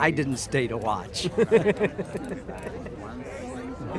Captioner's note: laughter